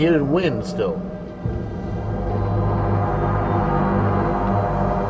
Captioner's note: deeper ominous sound